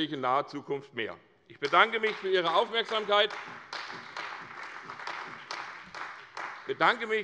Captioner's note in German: Beifall bei der CDU und dem BÜNDNIS 90/DIE GRÜNEN